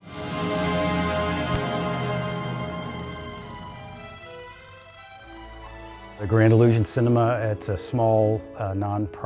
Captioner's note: film reel clicking